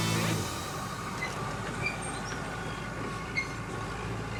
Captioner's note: tracks squeaking